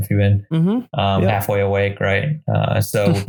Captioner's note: giggles